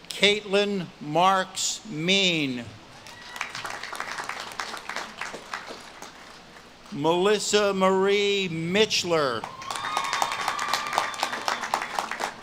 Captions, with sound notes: Kaitlyn Marks Mean. (audience claps and cheers) Melissa Marie Mitchler. (audience claps and cheers)